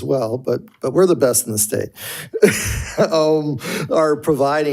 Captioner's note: chuckles